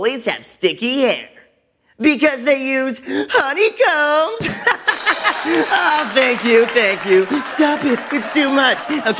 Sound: laughter, applause

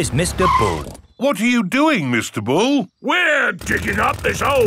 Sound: none

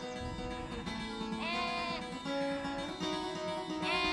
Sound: bleating

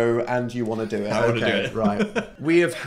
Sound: laughs

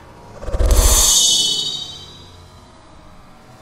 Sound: slicing sound

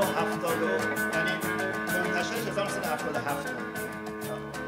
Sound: speaking in farsi

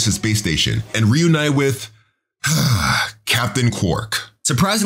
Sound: Conscience sighs

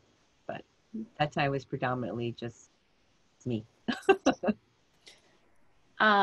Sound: laughter

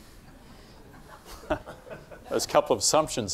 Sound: laughing

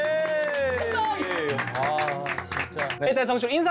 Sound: applause

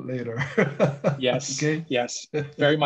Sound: chuckling

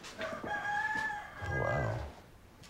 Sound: crowing

